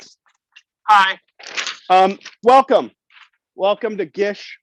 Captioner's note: paper rustles